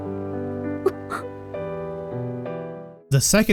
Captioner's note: Arisa grunts in anime